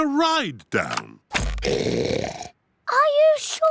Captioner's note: oinks loudly